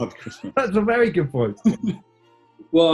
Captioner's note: laughing